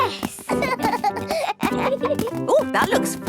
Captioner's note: both laugh